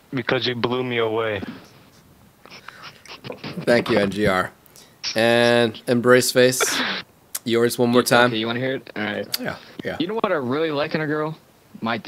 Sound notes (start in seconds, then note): 2.3 laughter